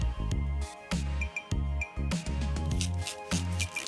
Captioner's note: beeping